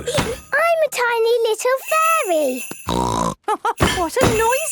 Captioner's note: snort; laugh